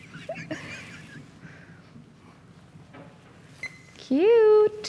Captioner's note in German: Lacht